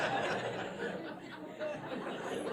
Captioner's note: laugh